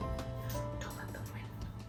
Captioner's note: whispers